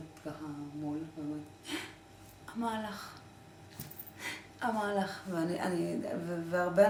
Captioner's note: gasp